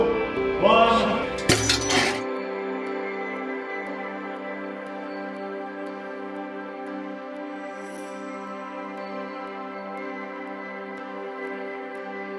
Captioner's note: clank sound then music